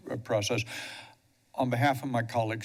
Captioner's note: breaths steadily